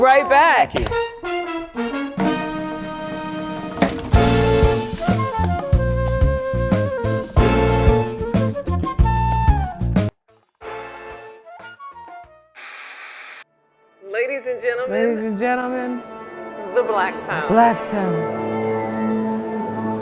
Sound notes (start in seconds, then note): 12.6 television static; 14.8 dreamily; 17.2 dreamily; 18.2 orchestra warming up